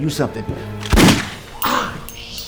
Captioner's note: gun fires